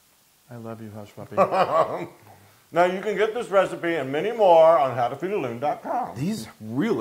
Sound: laugh

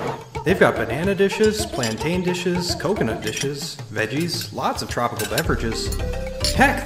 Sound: wooden chairs scraping on floor; dishes clanking together

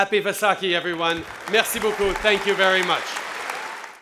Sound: applause

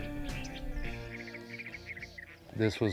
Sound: birds chirping

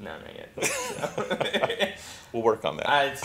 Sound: both men laugh

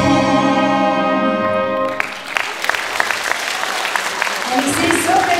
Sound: applause

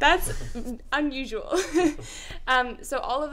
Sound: laughter

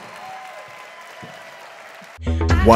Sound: applause

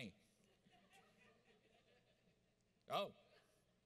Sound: audience laughs

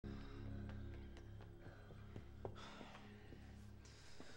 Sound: footsteps running

